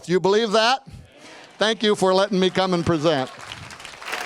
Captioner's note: clapping